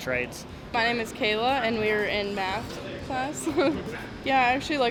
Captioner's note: chuckles